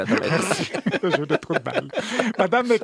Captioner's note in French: rires